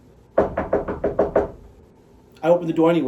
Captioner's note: knocking